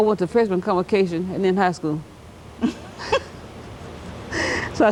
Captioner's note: giggles